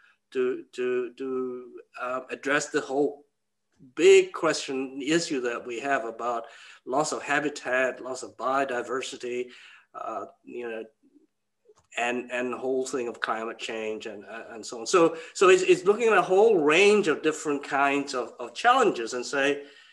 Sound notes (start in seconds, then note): none